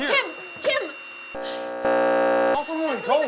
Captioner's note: static